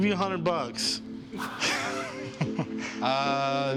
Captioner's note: laughs